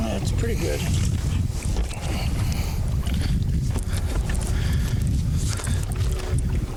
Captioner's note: water sloshing